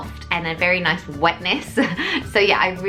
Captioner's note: laughs